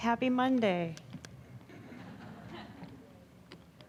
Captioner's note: audience laughing